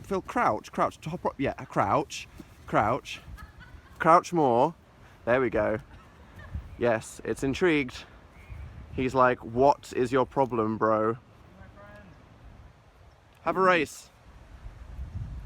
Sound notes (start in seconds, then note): 3.0 laughter in background